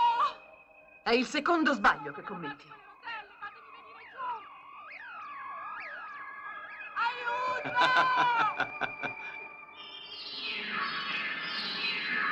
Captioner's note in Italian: risate